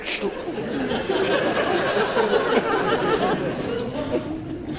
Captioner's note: audience laughs